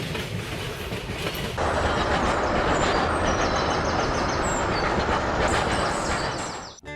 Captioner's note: train rushing past